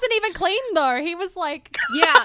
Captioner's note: hosts laugh